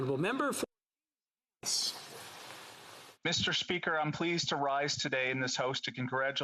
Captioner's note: speaking French